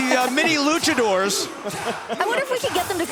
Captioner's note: crowd cheering